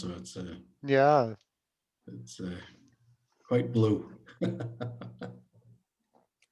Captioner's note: laughs